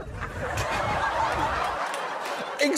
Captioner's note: giggles